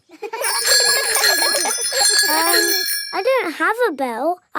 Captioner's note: giggling and ringing bells